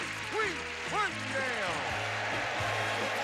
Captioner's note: audience applauding